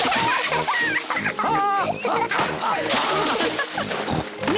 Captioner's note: both laugh; laughs